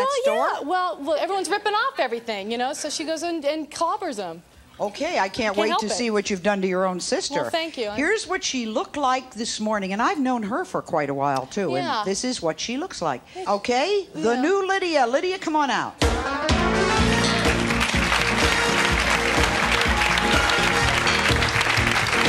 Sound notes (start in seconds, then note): 16.2 engaging music; 16.5 crowd applauds and cheers